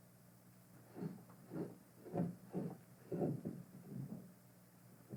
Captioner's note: grinding sounds